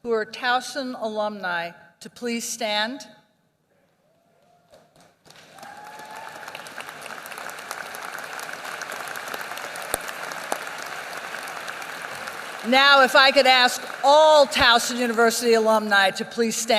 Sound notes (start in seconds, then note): 4.7 applause